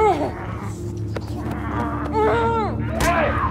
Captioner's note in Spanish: Gemidos